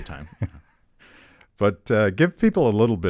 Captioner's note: chuckling